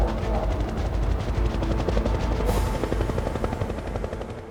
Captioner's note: helicopter blades flapping